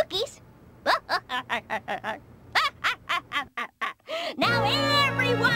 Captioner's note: evil laughter